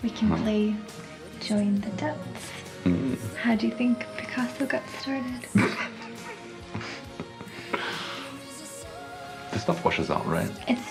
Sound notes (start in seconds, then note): 5.5 both laughing